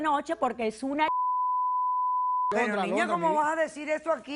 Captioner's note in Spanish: Bip